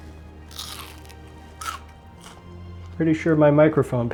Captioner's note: crunch Crunch